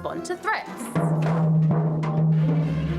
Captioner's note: thud!